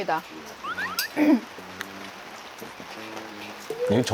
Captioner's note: connecting call